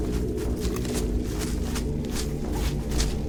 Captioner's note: rustling leaves